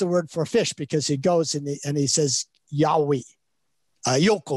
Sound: speaks in Chinese

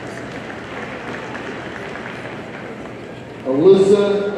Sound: audience applauding

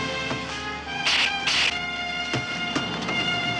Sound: empty gun clicking

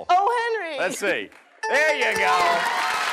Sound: dings

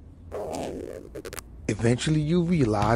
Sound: pants zip

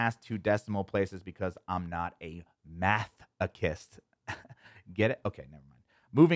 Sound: laughs

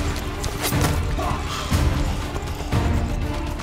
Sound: blade whooshes and stabs

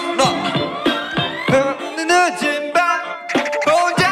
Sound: the pitch gets higher

